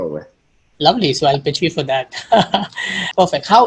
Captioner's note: laughs